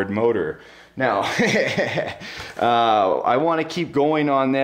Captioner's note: laughs